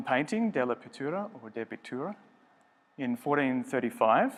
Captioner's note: speaking foreign language